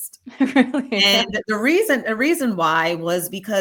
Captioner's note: laughs